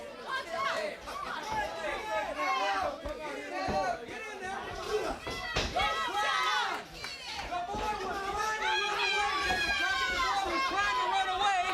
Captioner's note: crowd chatter